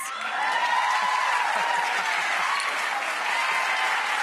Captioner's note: audience cheering